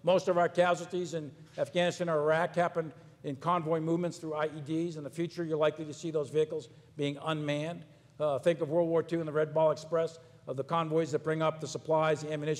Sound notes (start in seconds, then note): none